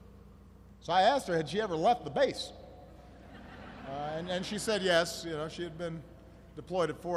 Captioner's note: laughter